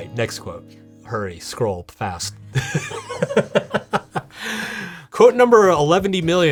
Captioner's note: laughing